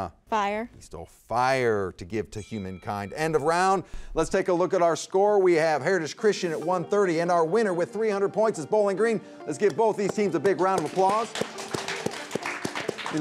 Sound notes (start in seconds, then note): 2.3 bell rings; 10.0 spectators applaud